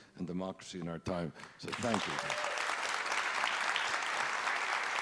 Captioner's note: applauding